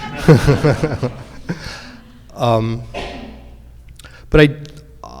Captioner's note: audience laughing